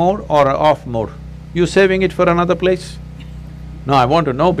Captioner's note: few laugh